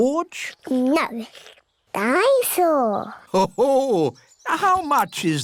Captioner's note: daddy pig laughs